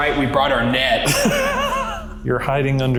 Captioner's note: laughing